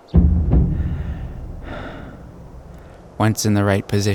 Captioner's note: man panting